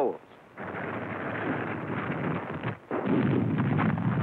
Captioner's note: explosions